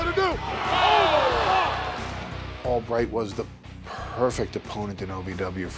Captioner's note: applause